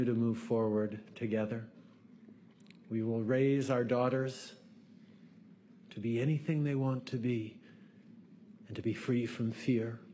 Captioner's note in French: voix de l'interprète